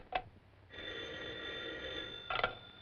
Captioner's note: phone rings